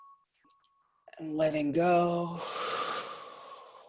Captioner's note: breathes